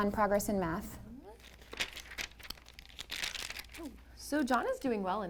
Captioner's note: paper flipping